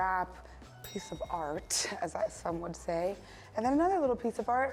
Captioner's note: ding